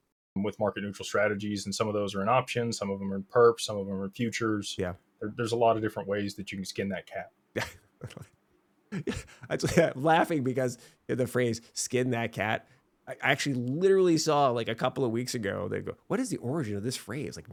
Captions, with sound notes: with market neutral strategies. And some of those are an option. Some of them are perps. Some of them are futures. Yeah. There's a lot of different ways that you can skin that cat. (laughing) Laughing because the phrase skin that cat, I actually literally saw like a couple of weeks ago, they'd go, what is the origin of this phrase?